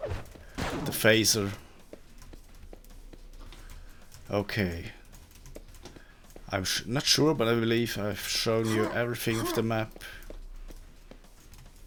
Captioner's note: blaster